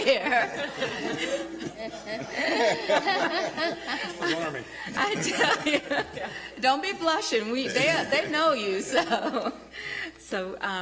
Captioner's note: laughter